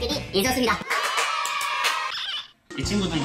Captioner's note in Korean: 짝짝짝 두둥 짝